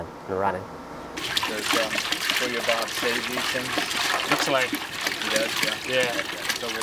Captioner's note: water sploshing; team chattering